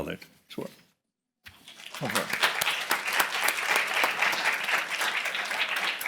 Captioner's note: applause